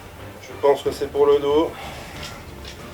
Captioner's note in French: soupire